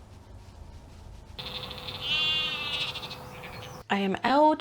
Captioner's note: sheep noises